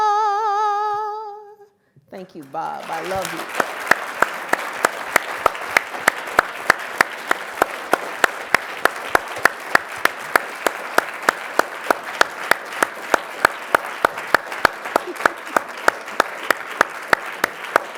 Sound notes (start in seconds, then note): 3.8 audience applauding